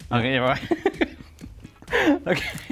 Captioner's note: laughs